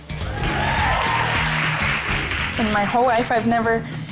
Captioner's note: cheerleaders applauding